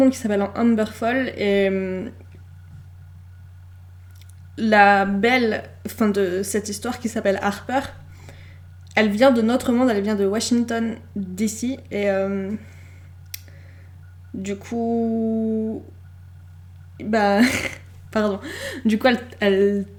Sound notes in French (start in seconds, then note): 17.3 glousse